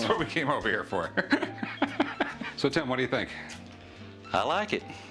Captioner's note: laughs